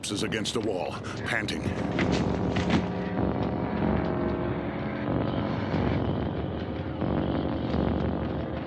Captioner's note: panting